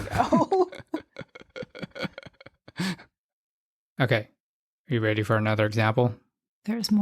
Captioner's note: laughs